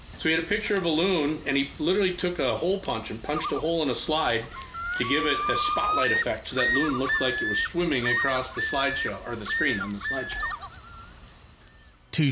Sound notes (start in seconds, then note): 1.1 crickets chirping; 6.0 critters chirping